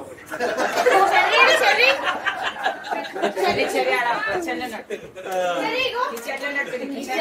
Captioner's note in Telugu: నవ్వు